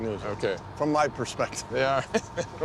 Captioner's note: laughs